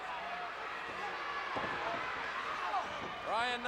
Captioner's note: crowd cheering